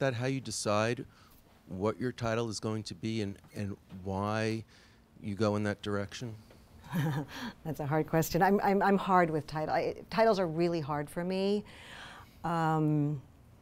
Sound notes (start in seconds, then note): 6.9 laughs